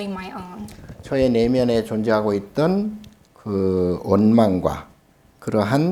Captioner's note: speaking Korean